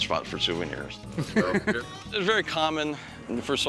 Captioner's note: laughs